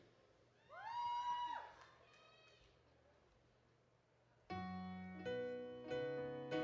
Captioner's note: audience applauding